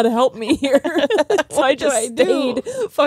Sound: both laughing

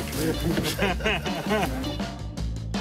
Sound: chuckles

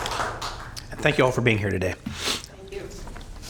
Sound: applause

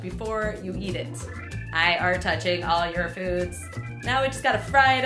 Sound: robot voice

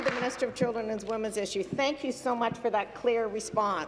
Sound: applause

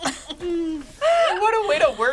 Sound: laughs

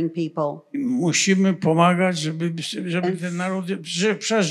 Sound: foreign language

